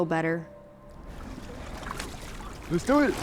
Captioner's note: water lightly splashing